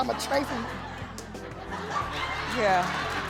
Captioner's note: laughing